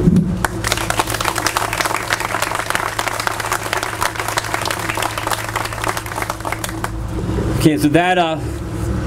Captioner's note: applause